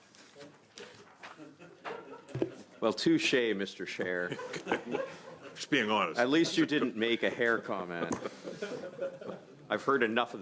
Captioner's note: laughter